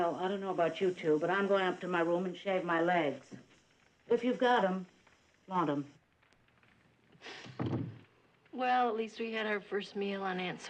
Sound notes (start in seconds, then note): none